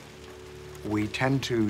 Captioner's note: rain falling